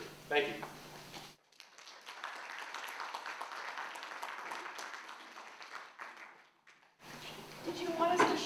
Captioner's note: applause